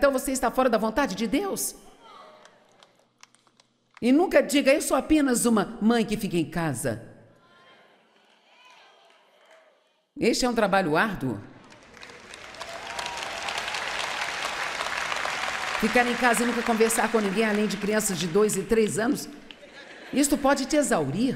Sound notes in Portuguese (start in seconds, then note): 11.6 plateia aplaudindo